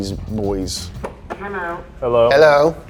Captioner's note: robotic Voice